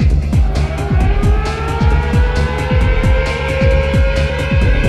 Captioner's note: sirens wailing